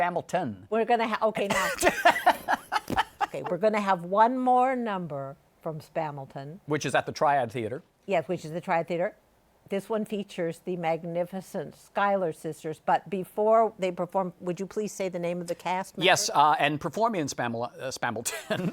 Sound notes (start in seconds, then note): 1.5 laughs; 18.2 laughter